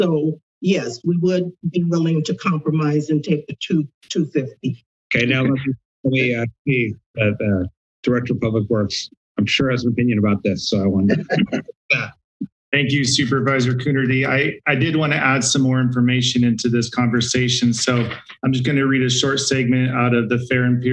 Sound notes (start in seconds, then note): 11.9 laughs